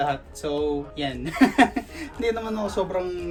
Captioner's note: laughs